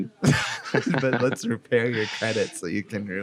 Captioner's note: laughing; laughs